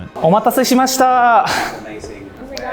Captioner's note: speaks Japanese